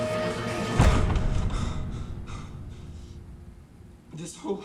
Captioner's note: hard breathing